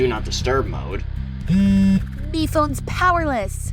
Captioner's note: MePhone buzzes